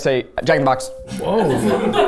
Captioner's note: bell ringing; crew chuckling